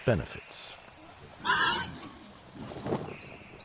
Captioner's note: boar squeals